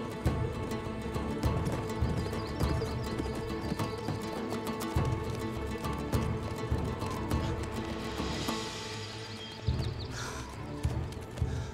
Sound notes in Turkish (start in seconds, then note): 9.5 Kuş cıvıltısı sesleri